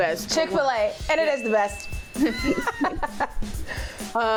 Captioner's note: laughing